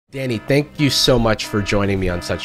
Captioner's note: alarm blaring